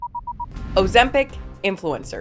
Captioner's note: timer beeping